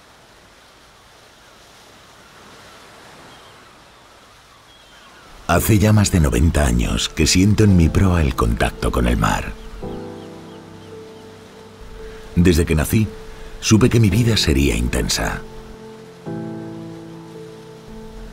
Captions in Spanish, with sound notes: (Sonido de oleaje) Hace ya más de 90 años que siento en mi proa el contacto con el mar. Desde que nací supe que mi vida sería intensa.